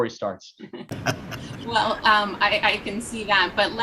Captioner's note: laughter